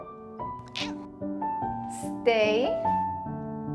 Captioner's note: Holden meows